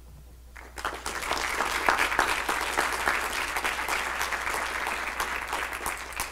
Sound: clapping

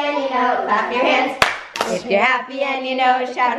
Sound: clapping

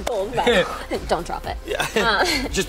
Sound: laughs

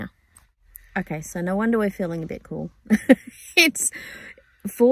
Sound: laughing

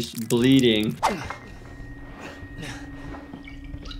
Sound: man grunting

